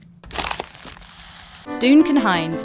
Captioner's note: cardboard tearing; paper crinkling